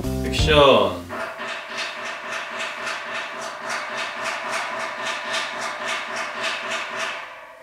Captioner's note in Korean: 공사하는 소리